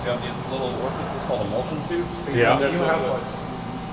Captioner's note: beeping